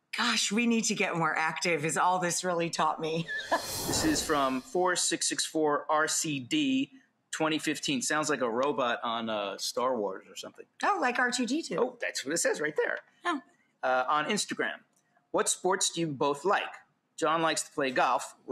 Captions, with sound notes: Gosh, we need to get more active is all this really taught me. (laughs) (swoosh) This is from 4664RCD2015. Sounds like a robot on "Star Wars" or something. Oh, like R2-D2. Oh, that's what it says right there Oh on Instagram. What sports do you both like? John likes to play golf.